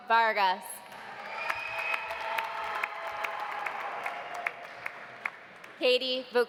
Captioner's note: audience applauding; audience cheering